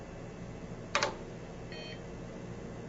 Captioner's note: keys clack, beep